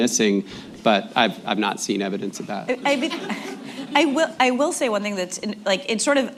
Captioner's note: laughter